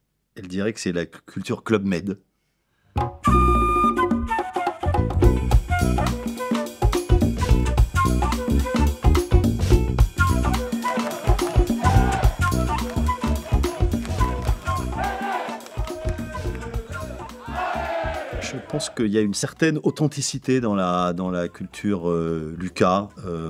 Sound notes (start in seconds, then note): 10.5 crowd noise; 11.0 jazz music